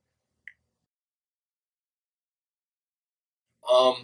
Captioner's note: silence